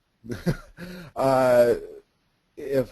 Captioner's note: laughs